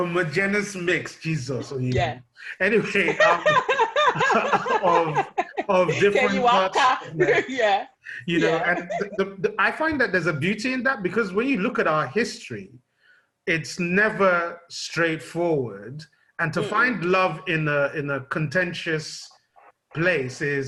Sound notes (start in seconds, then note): 2.8 laughter